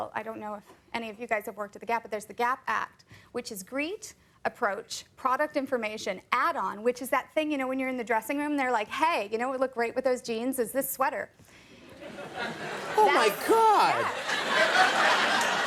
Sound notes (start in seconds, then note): 11.8 audience chuckling; 13.8 audience laughing